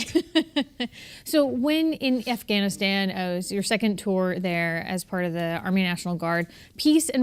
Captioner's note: laughter